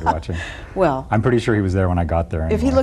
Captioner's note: laughing